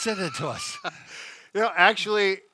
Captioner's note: laughs